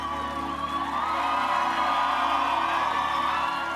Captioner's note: cheers and applause